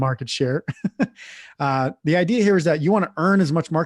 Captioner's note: laughs